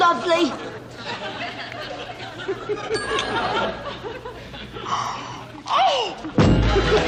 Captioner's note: laughter; laughter